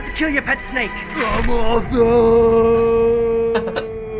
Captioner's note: chuckles